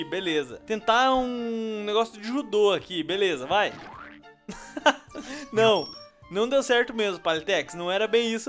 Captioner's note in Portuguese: Risos